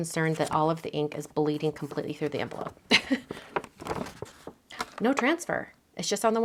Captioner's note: chuckles